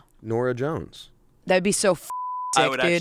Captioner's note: beep